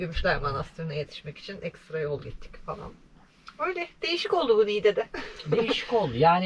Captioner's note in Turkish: kahkaha